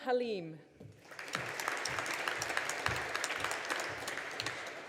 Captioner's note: audience applauding